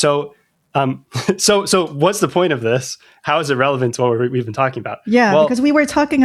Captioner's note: laughter